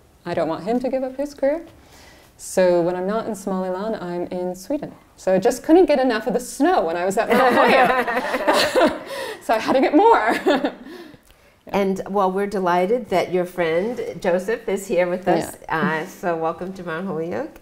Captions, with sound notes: I don't want him to give up his career. So when I'm not in Somaliland, I'm in Sweden. So I just couldn't get enough of the snow when I was at Mount Holyoke. [LAUGHTER] So I had to get more! [LAUGHS] Well, we're delighted that your friend, Joseph, is here with us. So welcome to Mount Holyoke.